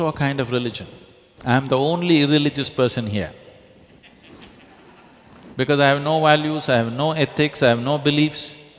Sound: laughter

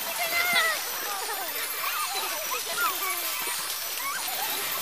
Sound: all giggling

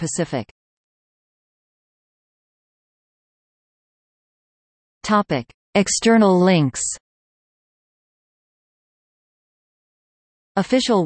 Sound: in Spanish

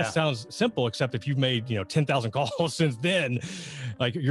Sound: giggles

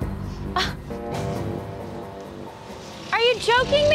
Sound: gasps

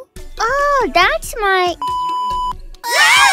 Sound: beeeeeep

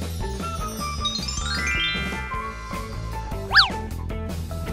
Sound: magic twinkling

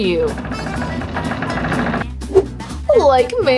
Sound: door creaking

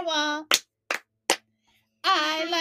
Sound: clap, clap, clap

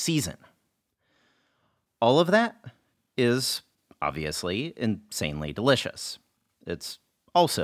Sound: breath

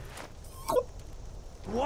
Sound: foomp!

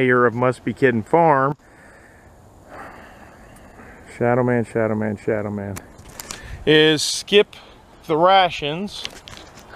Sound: heavy sigh

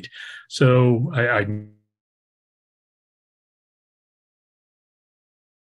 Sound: microphone fades

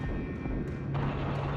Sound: gunshots

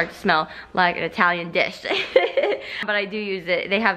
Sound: laughs

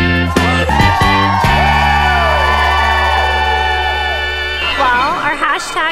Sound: upbeat music; cheering

